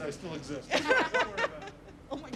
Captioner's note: laughter